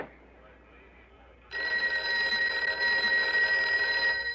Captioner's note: telephone rings